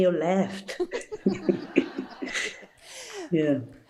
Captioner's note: audience laughing